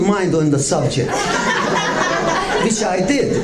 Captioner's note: audience laughs